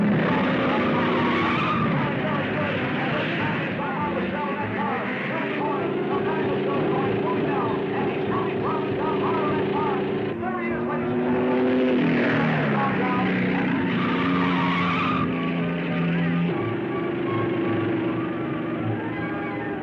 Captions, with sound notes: (tires squealing) (car revving) And he's moving forward down the red line. There he is, ladies and gentlemen. (car whirring) (tires squealing) (thrilling music)